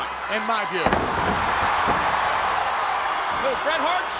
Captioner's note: audience cheering